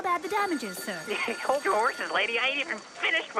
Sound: laughs

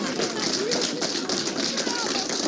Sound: cheering and clapping

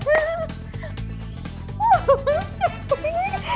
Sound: laughing

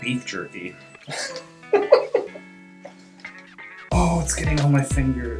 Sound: laughs

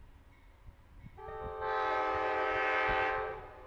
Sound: train horn

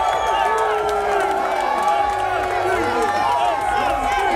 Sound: crowd; crowd cheering and clapping

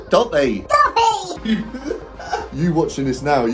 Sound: host laughing

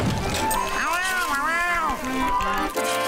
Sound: meowing

